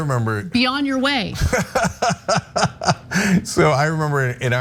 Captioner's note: laugh